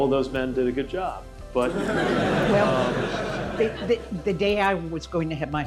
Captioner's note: laughter